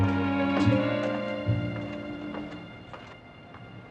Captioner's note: footsteps Departing